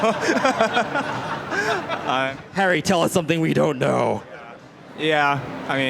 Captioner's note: audience laughs